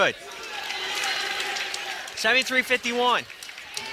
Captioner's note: cheering